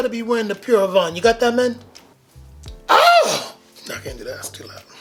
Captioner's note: shrieks